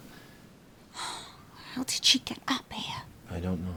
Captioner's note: sighs